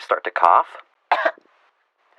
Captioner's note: cough sounds